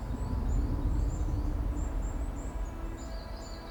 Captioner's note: bird song